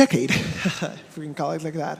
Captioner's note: speaker chuckling